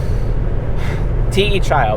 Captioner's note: sighs